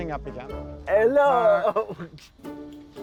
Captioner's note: giggles